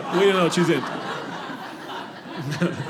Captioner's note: audience laughing